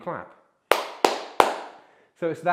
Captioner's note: clapping